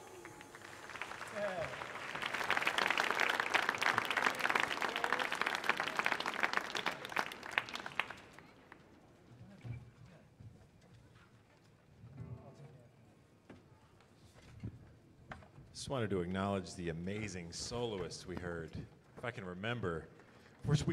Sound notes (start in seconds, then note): 0.0 audience applauding